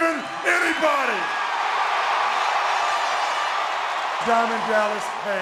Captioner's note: audience cheering